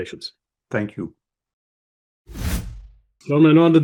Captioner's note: screen whooshing